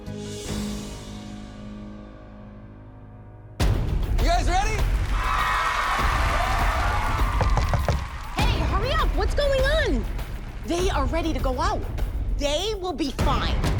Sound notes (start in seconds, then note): 4.8 applause; 7.4 knocking